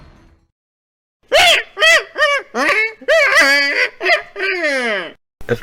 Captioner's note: laughs manically